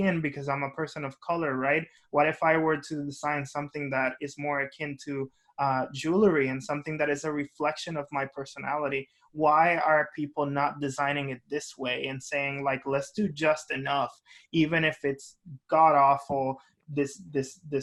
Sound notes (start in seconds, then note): none